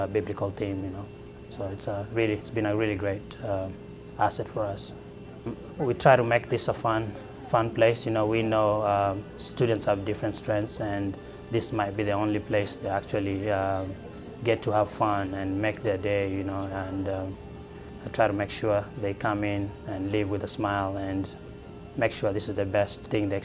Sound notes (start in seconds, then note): none